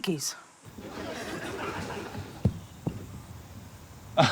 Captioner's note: laughter